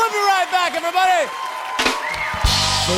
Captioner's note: cheers and applause